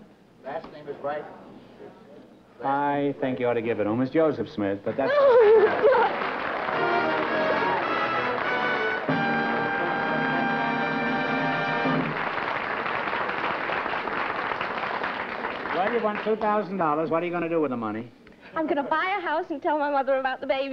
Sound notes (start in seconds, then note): 4.9 laughter; 11.5 applause